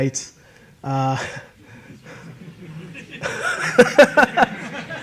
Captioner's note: audience laughing